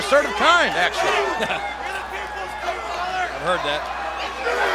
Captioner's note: Jerry laughs